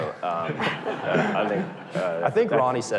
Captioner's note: audience laughter